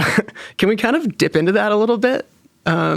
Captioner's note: chuckling